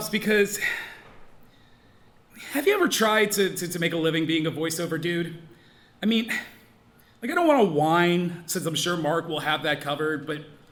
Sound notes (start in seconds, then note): 6.6 scoffs